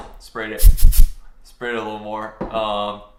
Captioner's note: spraying